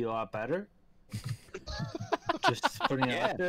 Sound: laughter

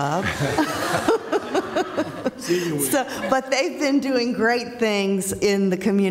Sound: laughter

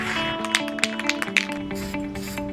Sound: paint can rattles

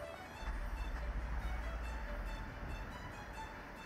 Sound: water splashes

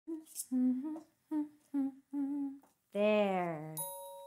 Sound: humming

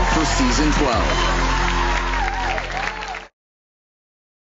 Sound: applause

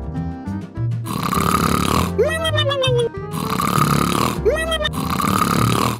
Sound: Goo Goo Mom snoring

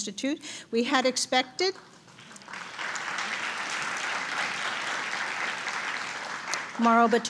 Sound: applause

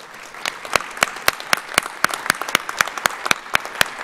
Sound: audience applauds

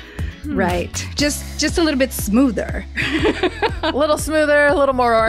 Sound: laughs

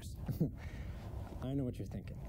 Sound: laughs

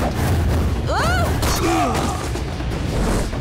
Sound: groaning

